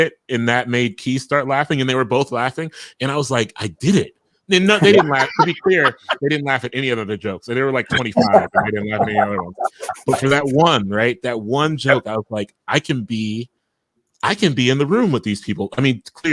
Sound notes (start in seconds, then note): 4.7 laughing